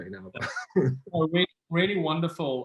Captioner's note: laughs